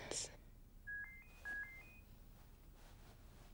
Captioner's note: handy ringing